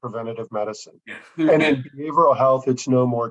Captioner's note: chuckles